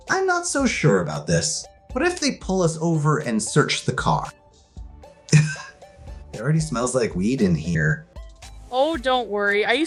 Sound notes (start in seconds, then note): 5.3 Peetz coughs